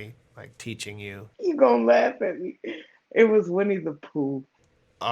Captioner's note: laughter